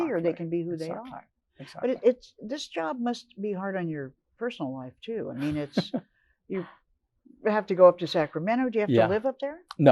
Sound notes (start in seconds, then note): 5.4 laughs